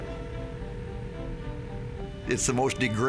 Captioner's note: phone ringing